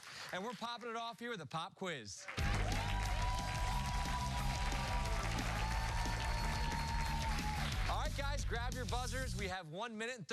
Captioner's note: cheers and applause